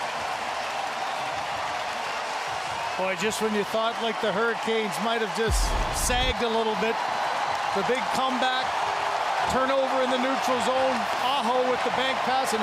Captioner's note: cheering and Applause